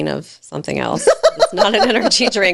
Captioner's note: laughing